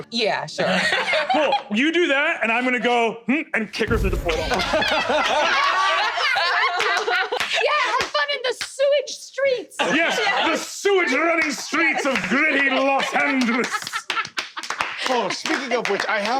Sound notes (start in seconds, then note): 0.6 laughs; 4.4 uproarious laughter; 13.9 laughter, clapping